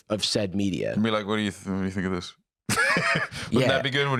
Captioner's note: laughs